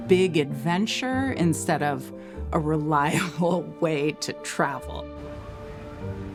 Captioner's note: chuckling